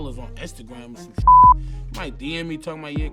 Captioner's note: beep